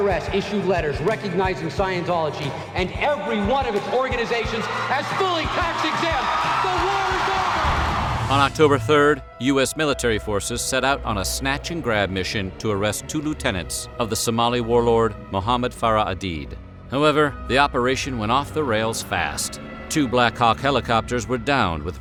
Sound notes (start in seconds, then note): 5.9 crowd cheering